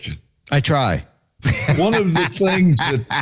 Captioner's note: laughter